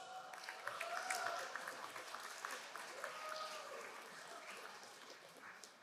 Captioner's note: crowd cheering and applauding